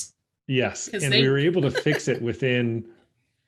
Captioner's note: laughs